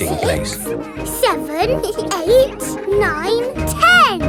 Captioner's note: both giggle